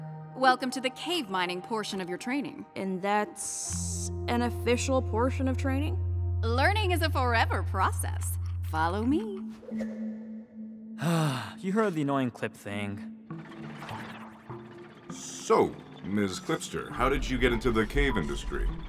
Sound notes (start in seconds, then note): 11.0 sighs